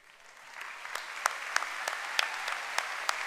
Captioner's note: applause